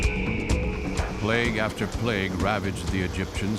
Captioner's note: locusts chirping